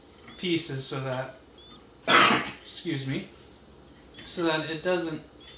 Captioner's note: cough